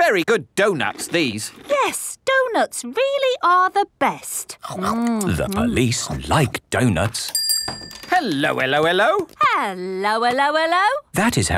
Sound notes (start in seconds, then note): 0.2 munching; 7.3 bell rings